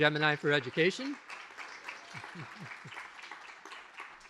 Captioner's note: applause